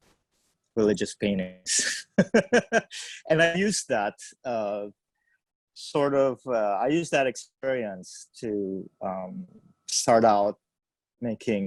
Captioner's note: laughs